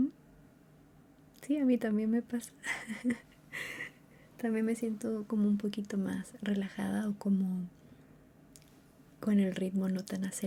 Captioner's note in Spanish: risas